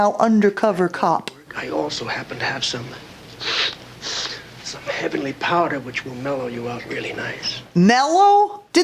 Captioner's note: sniff sniff